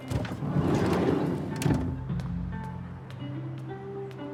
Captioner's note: guitar plays gently during soundcheck; van door whooshes